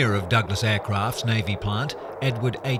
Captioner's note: plane engine